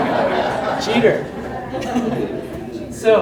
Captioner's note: audience laughs